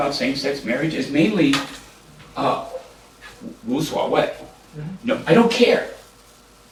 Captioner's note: japanese